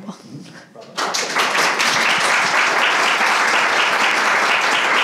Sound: audience applauding

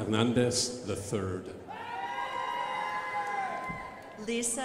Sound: crowd applauding

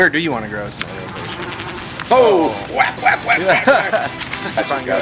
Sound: fly buzzing

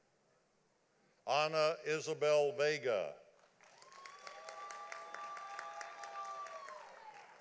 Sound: audience applauding

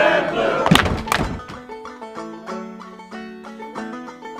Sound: clapping and stomping

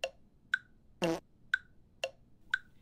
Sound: farts

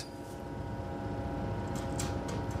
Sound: muffled roar of machines

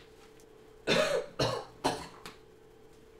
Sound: cough

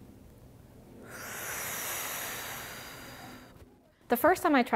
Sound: puffing air

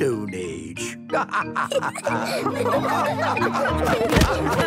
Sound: all laughing

